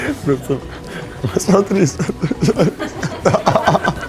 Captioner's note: laughs